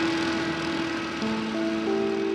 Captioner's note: engine rumbling